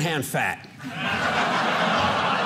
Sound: audience laughing

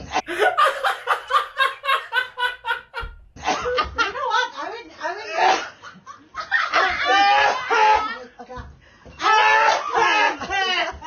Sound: laughing

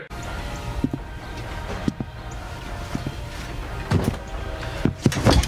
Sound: footsteps thudding

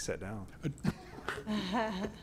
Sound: laughter

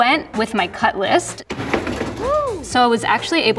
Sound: wood rummaging

